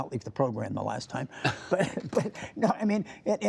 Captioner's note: laughter